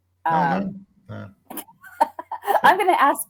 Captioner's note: laughs